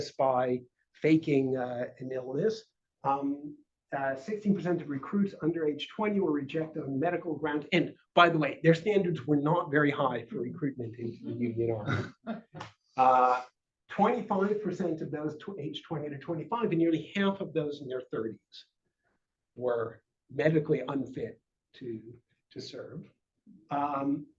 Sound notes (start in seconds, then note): 11.7 chuckles